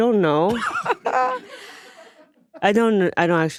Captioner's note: group laughing